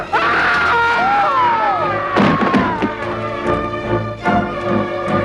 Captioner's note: screaming; Hundra mocks man's cry